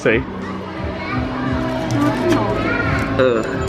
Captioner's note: indistinct chatters